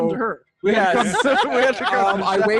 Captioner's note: all laughing